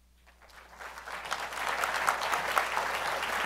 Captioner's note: applause